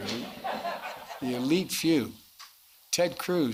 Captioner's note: laughter